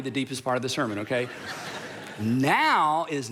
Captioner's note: crowd laughing